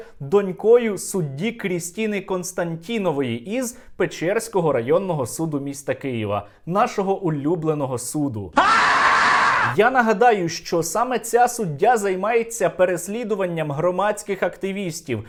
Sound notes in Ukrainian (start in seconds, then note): 8.5 крик